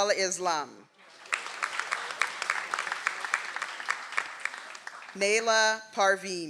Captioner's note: audience applauds